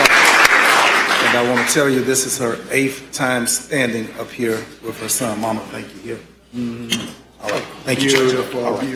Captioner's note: applause